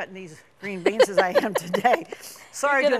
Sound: both laugh

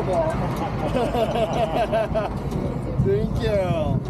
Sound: laughter

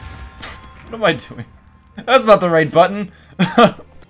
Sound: laughs

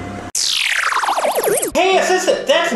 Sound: swirl sound

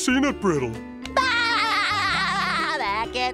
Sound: laughing

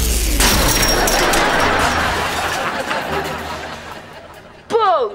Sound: laughing

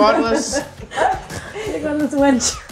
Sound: laughing

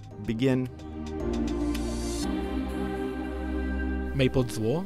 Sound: voiceover

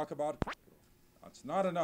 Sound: cut/silence

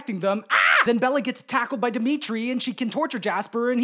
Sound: screams

